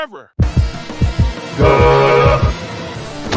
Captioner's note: horn sound